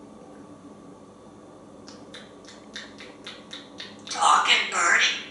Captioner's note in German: smacking sounds